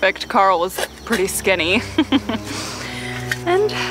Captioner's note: chuckles